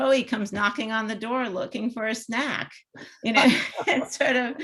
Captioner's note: chuckles